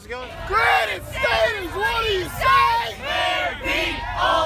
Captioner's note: yelling